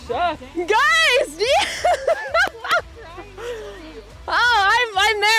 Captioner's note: laughs